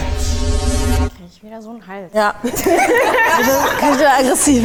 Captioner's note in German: lachen